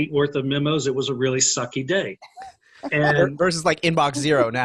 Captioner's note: laughing